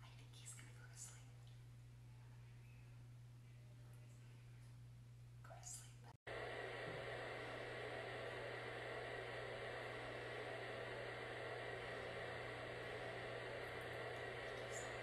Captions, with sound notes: (whispering) I think he's going to go to sleep. (whispering) Go to sleep. (white noise plays)